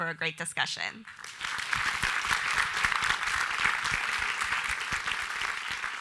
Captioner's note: audience applauding